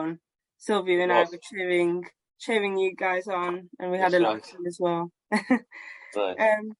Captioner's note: laughs